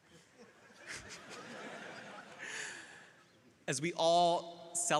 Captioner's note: crowd laughing